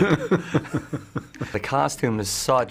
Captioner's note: Willem laughing